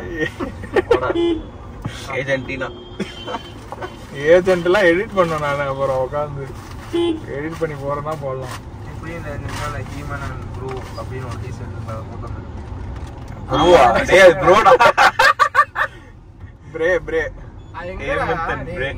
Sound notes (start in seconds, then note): 14.5 Laughs